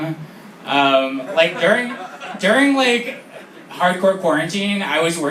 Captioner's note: laughter